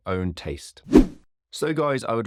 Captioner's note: screen whooshing